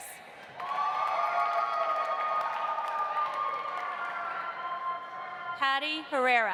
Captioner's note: audience applauding; audience cheering